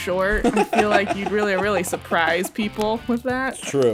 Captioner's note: laughs; laughter